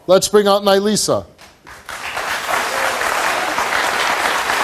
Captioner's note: audience applauds